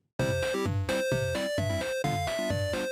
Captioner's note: arcade-game sounds